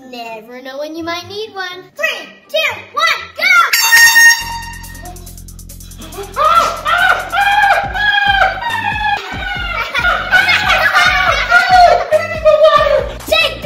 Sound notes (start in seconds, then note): 3.7 air horn sounding